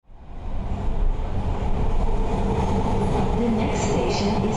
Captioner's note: MARTA train sounds